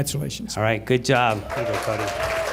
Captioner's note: applause